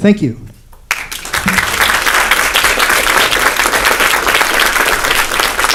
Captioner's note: applause